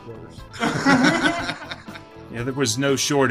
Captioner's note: men laughing